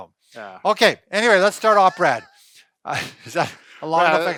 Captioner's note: laughing